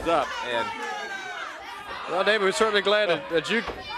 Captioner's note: crowd cheering